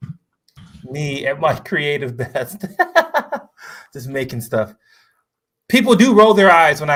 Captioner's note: laughs